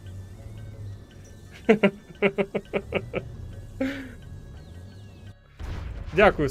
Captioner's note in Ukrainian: сміх